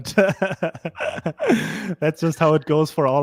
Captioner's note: all laughing